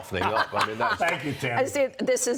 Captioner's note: laughter